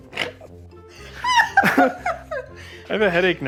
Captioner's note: laughs